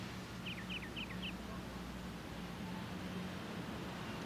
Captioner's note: birds chirping